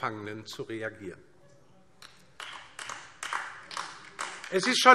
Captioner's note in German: Beifall DIE LINKE